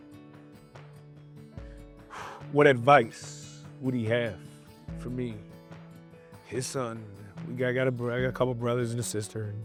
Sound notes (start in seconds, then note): 2.0 exhales sharply